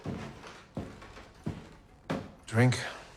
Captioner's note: footsteps approaching